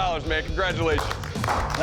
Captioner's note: clapping